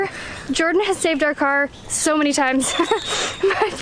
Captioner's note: laughter